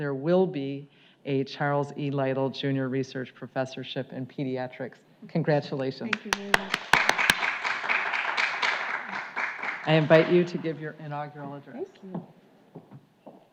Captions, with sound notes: there will be a Charles E. Lytle Junior Research Professorship in Pediatrics, congratulations. - Thank you very much. (audience clapping) - I invite you to give your inaugural address. - Thank you.